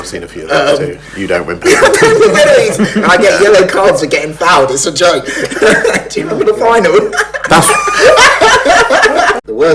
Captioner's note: laughs